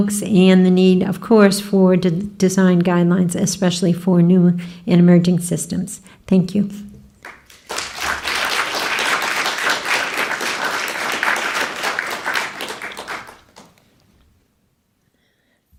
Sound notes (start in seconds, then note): 7.2 applause